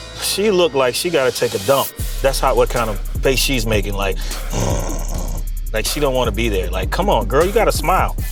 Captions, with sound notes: She look like she gotta take a dump. That's what kind of face she's making, like, [GROWLS], like she don't want to be there. Like, come on, girl, you gotta smile.